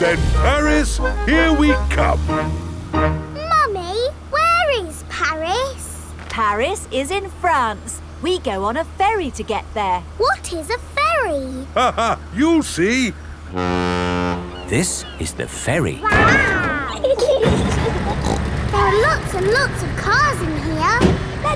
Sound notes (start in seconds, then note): 11.9 laughing; 13.4 ferry horn blows; 16.0 giggling; 17.5 snorts